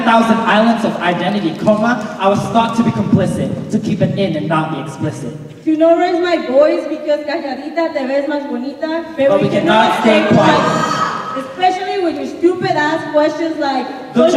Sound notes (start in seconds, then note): 7.5 speaking in Spanish